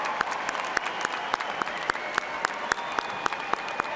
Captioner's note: cheers and applause